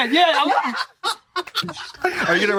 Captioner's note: laughs